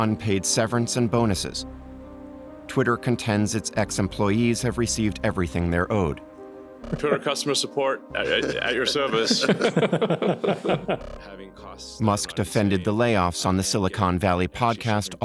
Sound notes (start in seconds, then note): 8.2 chuckling